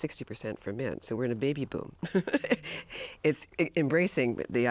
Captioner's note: laughs